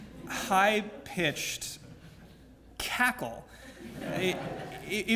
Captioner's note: laugh